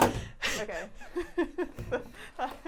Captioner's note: bottle clicking